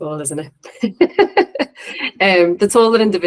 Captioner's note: laughs